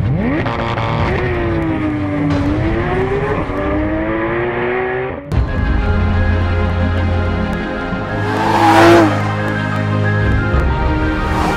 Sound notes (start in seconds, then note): 0.0 GT3 ENGINE REVVING AND TAKING OFF ZERO TO 100 KPH VROOOOMMMMMMmmmmmm; 5.4 VROOOOMMMMMMmmmmmm